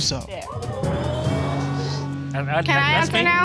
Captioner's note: audience exclaiming